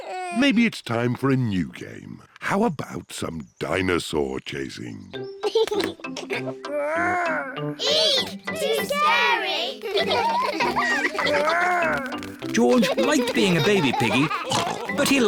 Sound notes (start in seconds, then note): 5.4 giggles; 9.7 all laugh